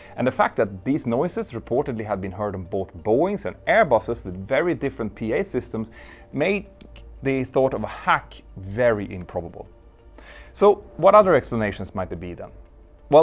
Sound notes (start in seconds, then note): none